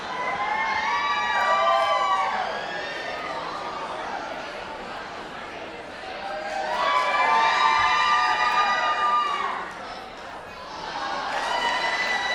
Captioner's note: cheering